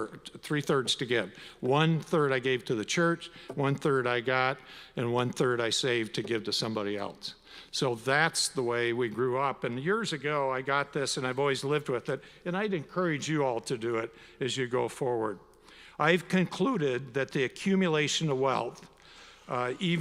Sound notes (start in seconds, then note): none